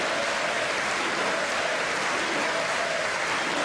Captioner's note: cheers and applause